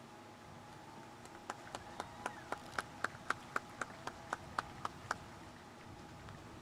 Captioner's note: audience cheering and applauding